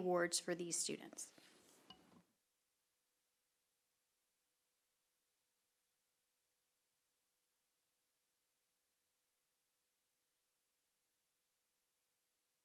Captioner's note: silence